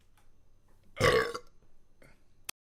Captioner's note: burps